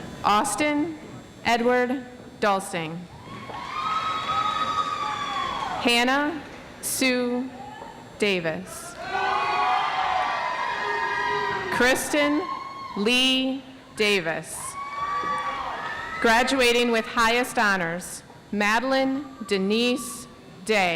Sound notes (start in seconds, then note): 9.4 audience applauds